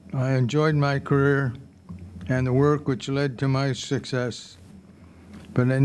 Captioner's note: none